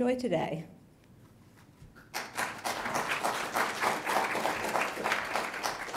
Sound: applause

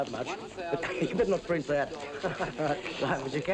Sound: chuckles

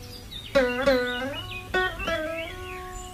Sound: chirping of Birds

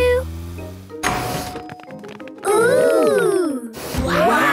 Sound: door dings open

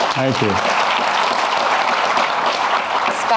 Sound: audience applauding

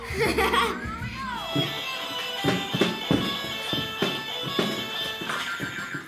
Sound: Hot Potato game sound effects

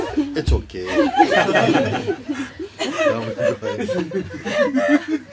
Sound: laughter

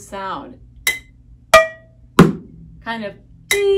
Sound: tink tap thud

